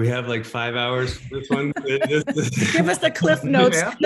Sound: laughter

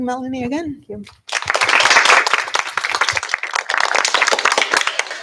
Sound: applause

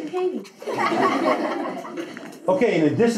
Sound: class laughs

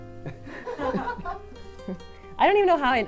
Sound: all laughing

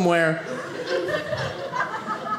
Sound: audience laughing

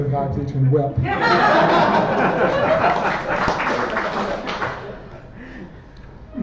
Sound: laughter and applause

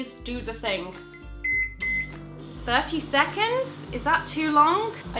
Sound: microwave beeps

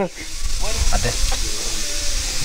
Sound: giggling

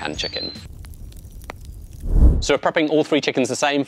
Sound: fire crackling

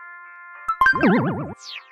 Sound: confirmation sound

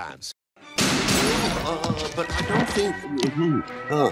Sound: gunshots

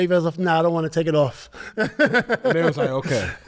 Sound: laughs

